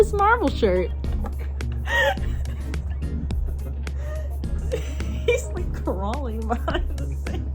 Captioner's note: laughing